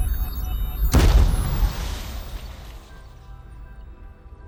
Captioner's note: loud crash